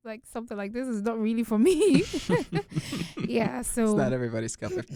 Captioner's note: both chuckle